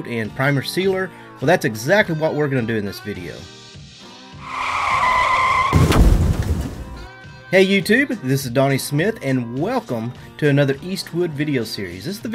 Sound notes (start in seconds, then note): 4.3 tires screeching; 4.5 crashing